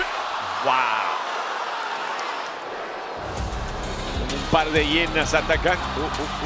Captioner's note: applause